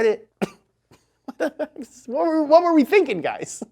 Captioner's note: chuckling